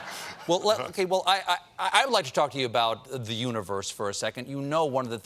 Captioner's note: laughter